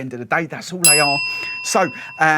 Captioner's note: bell dinging